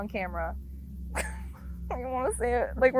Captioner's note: crying